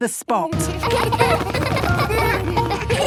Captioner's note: laughter